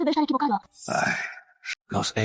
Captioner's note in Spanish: Suspiro